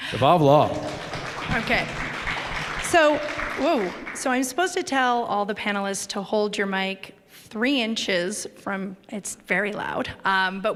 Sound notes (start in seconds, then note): 0.1 applause